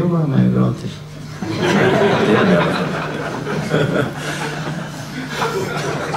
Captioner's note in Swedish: Skratt